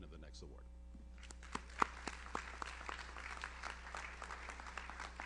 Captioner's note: audience applauds